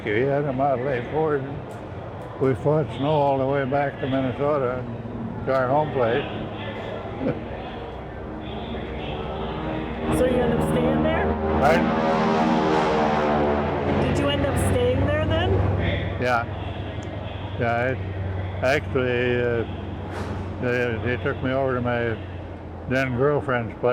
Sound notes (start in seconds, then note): 7.0 chuckles; 12.4 plane droning overhead